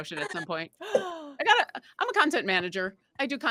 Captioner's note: gasps